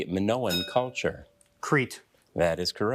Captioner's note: bell dinging